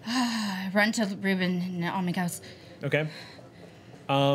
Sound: panting

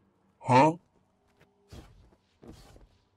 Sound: HUH? Sound effect

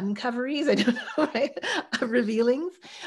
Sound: chuckling

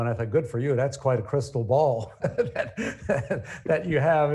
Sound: chuckles

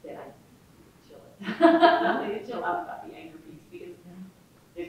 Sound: audience laughing

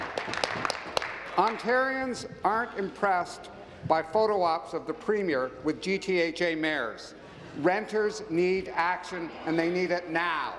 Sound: applause

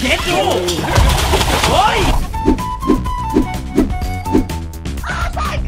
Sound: cheering

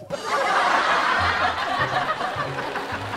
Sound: all laugh

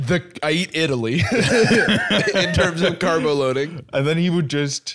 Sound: laughs

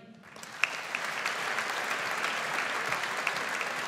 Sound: audience applauds

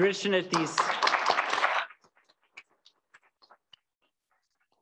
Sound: applause

